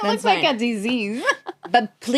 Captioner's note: laughs